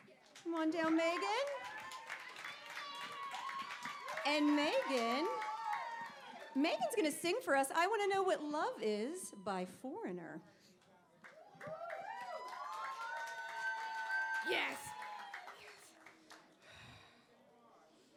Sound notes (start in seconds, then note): 11.3 cheering